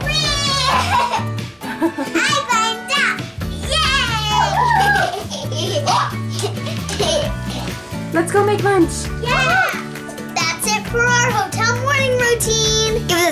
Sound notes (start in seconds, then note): 9.2 children cheering